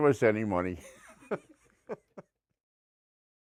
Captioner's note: laughing